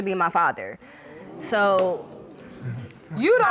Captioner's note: audience exclaiming